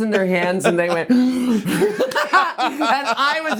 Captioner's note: both laughing